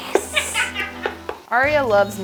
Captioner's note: team laughs